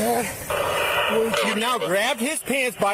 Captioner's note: radio chatter